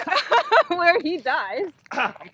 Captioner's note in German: lacht